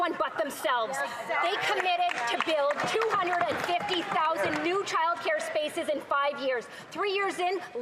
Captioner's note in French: voix de l'interprète